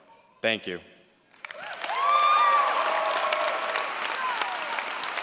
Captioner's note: cheers, applause